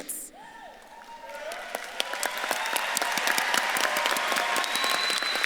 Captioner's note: audience claps and cheers